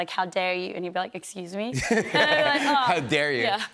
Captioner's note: laughs